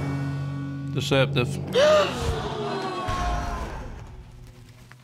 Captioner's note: audience gasps